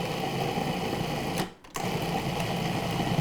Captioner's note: mixer whirring